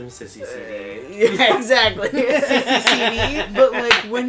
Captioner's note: laughter